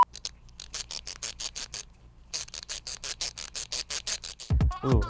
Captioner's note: screwdriver noise